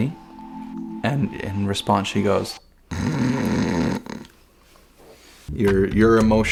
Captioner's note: snoring noise